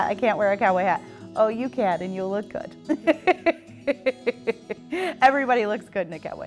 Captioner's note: laughs